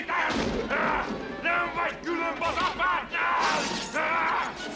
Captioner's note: screaming